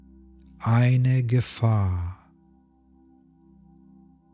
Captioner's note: german